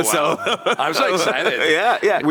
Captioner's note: laughs